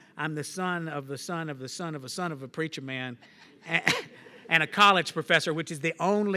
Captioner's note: laughs